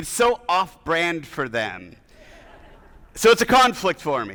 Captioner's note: audience laughing